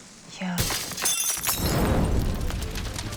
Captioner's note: crash; tense music